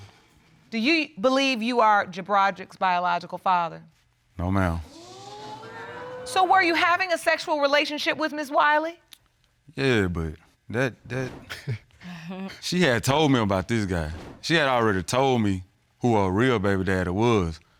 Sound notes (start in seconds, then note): 4.9 audience exclaiming; 11.4 chuckles